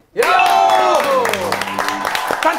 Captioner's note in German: Jubel, Applaus